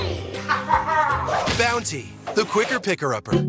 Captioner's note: laughing